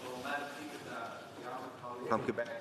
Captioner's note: speaking French